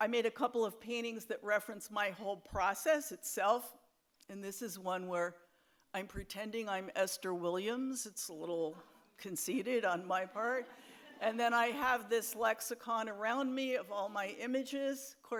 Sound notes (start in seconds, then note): 10.4 audience laughs